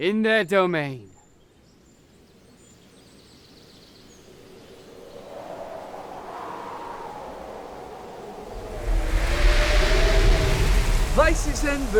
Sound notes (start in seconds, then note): 3.8 wind gusts, trees creak, leaves rustle